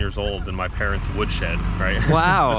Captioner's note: laughs